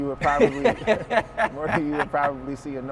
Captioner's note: laughs